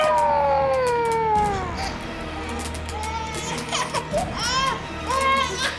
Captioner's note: Chelsea crying